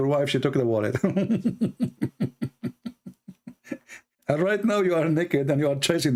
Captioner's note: Ketawa